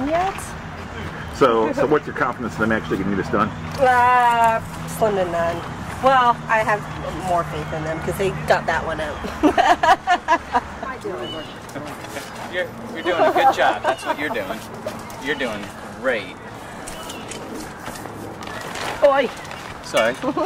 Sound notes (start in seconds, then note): 9.2 laughing